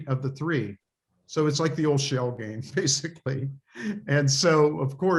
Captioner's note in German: lachen